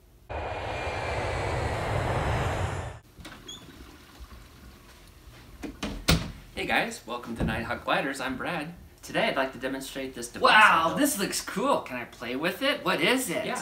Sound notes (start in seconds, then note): 0.2 sound of jet airplane; 3.3 sound of toilet flushing